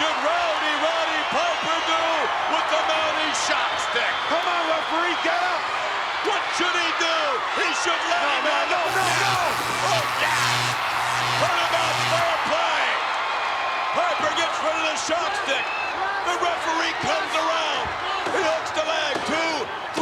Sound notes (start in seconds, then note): 8.8 electricity pulsating